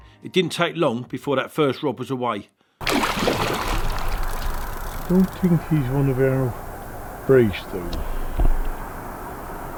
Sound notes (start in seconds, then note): 2.8 fish splashing